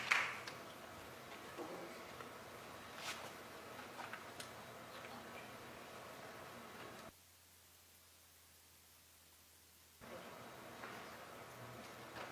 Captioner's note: applause